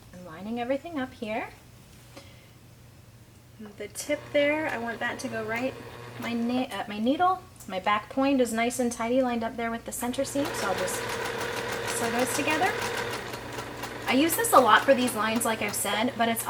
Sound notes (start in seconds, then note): 13.1 sewing machine churning